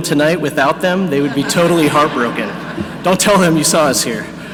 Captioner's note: audience laughing